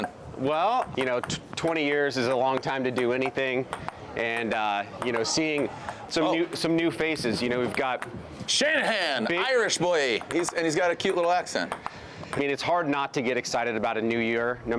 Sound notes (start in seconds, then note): 4.2 ball taps on table